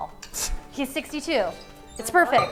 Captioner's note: scoffs